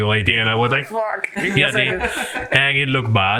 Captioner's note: laughs